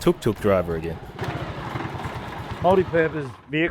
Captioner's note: tuk-tuk driving